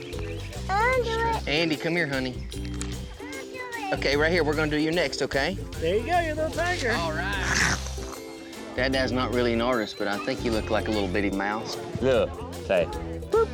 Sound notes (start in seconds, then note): 6.1 growling; 12.5 laughter